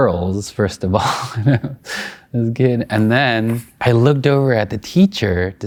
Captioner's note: laughing